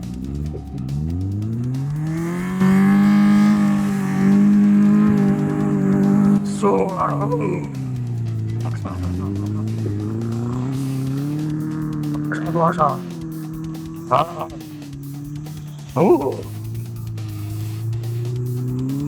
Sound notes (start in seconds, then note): 0.8 engine revving; 3.1 speaking foreign language